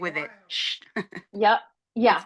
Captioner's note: laughing